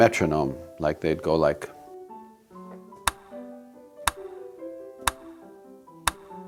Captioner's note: sound of a metronome tick, tick, tick, tick